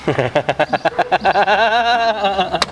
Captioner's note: laughs in Spanish